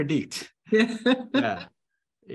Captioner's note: laughter, sound lagging